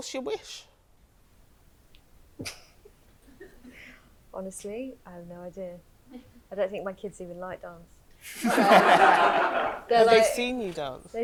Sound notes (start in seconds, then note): 3.2 laughs; 8.4 audience laughs